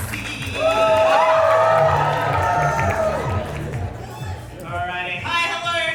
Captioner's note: audience woohoo